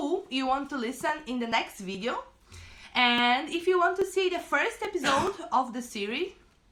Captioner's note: cough cough